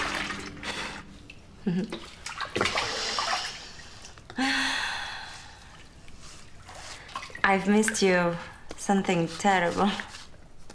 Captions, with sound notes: (chuckles) (exhales) - I've missed you, something terrible.